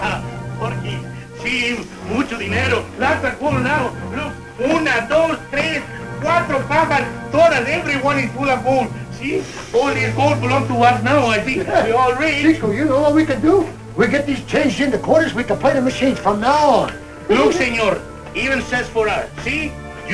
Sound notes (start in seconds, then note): 0.2 laughs; 1.7 non-english speech